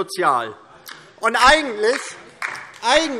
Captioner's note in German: Beifall DIE LINKE